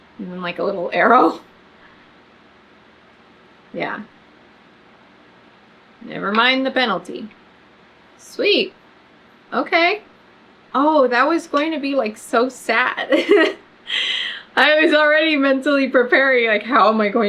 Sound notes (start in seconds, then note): 13.1 laughs